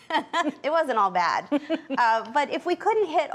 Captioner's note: laughs